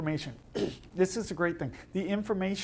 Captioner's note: clears throat